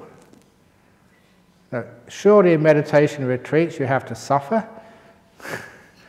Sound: chuckle

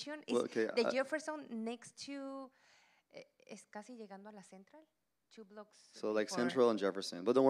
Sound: Spanish language

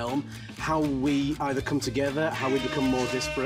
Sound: buzzer sounds

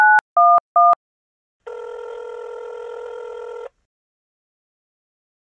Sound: phone dialing and ringing

